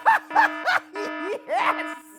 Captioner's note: alarm blares; laughs